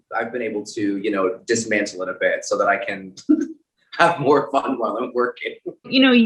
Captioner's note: chuckles